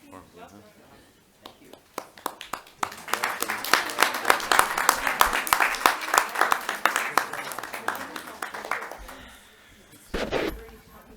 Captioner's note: applause